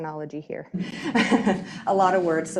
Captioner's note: laughing